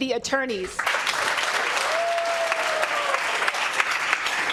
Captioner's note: cheers and applause